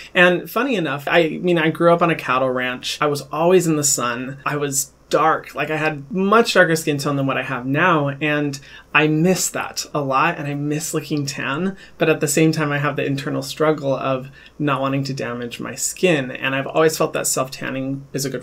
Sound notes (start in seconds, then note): none